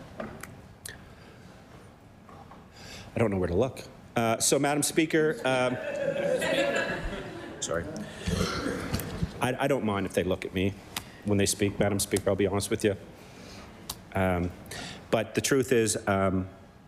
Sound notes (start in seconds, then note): 8.8 laughter